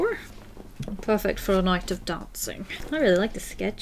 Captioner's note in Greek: Βρετανική προφορά